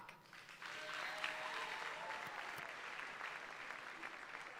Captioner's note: audience applauding